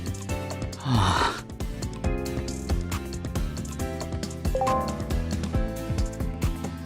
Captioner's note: sigh